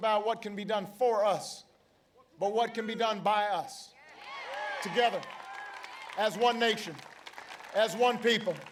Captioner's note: applause